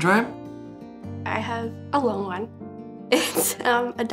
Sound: giggles

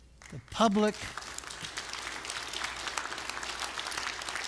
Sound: loud applause

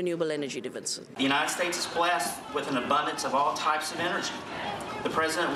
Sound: background noise of shouting

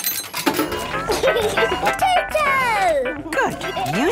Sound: giggling

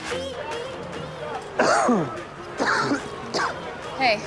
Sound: coughs

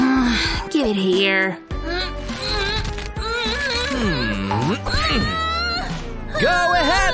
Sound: groans

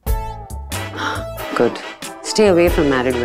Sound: exhales

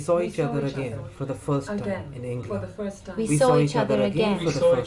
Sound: voices mumbling

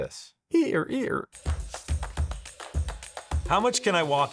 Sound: imitates hinge squeaking

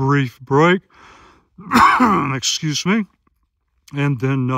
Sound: cough

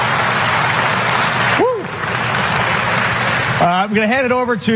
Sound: applause

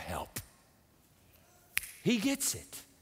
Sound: snaps fingers

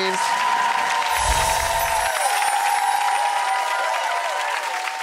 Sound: audience applause

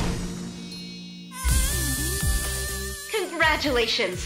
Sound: shine dinging; upbeat music

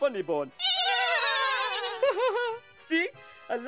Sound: laughter

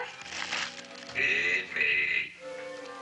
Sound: rustling

